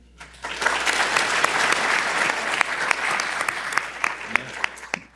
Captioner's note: audience applauding